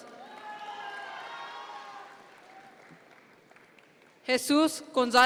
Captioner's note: audience members cheer